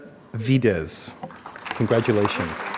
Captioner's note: applause